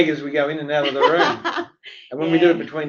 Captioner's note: laughs